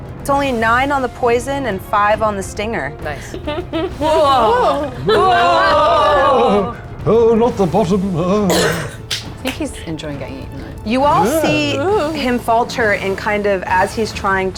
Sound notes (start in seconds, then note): 3.7 players gasping and exclaiming